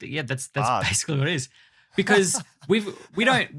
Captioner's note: chuckles